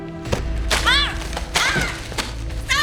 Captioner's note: Alejandra shouts